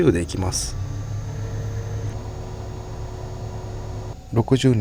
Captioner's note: sound of a vacuum cleaner; ambulance siren